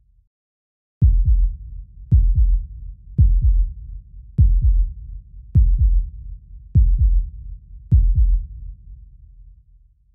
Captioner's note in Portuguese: sons de batimentos cardíacos acelerados